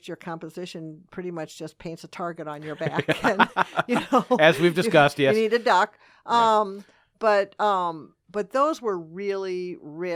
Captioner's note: laughing